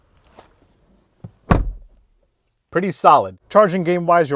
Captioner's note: door shuts